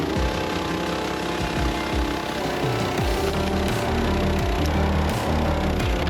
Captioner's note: splitter rumbling continues; upbeat music continues